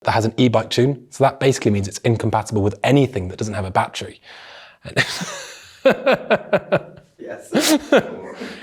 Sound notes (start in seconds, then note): 5.2 laughs